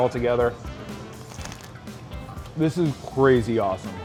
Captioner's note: crunching